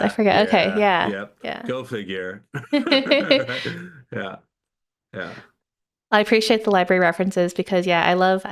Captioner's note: both laughing